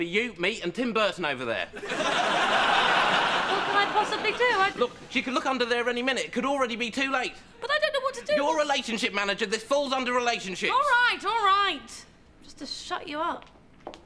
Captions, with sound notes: it's just gonna be you, me and Tim Burton over there. (audience laughs) - What can I possibly do, I- - Look, she could look under there any minute. It could already be too late. - But I don't know what to do- - You're relationship manager, this falls under relationships. - All right, all right, just to shut you up.